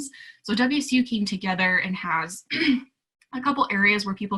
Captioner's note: clearing throat